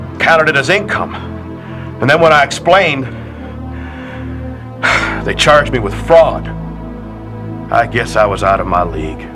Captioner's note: sigh